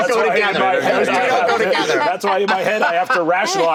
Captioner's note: laughter